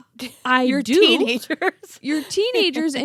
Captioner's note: laughs